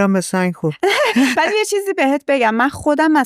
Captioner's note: laughs